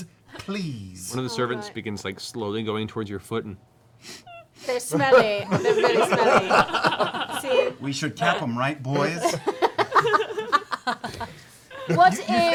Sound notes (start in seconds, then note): 4.0 sniffs; 4.9 laughter